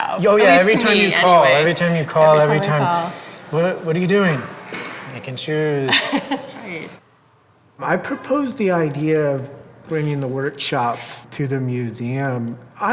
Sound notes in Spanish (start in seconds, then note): 5.7 risas